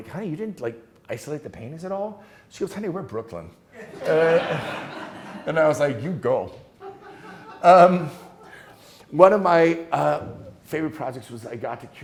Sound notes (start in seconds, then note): 3.8 students laughing